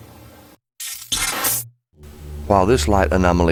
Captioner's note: electronic effect